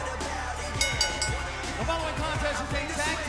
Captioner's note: bell ringing